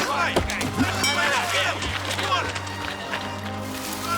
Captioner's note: men clamoring